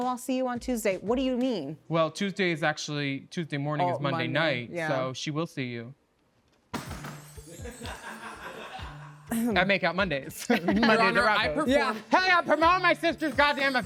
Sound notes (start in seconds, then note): 5.8 gavel tapping; 7.2 mystical music; 7.5 all laughing